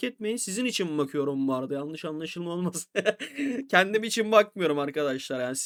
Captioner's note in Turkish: kahkaha